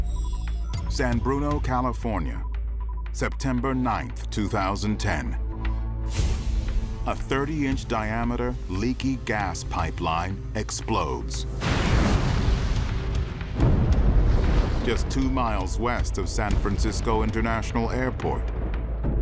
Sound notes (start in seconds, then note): 11.5 explosion